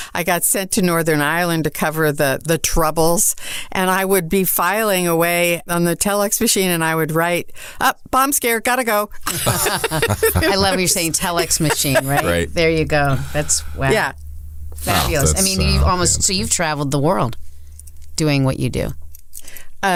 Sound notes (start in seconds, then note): 9.2 everyone laughs